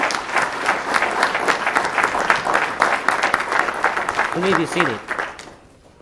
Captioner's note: applause